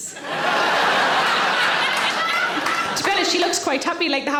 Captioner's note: audience laughing; audience applauding